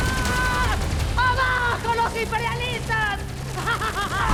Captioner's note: in Spanish; laughing maniacally